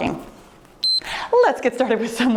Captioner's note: timer beeps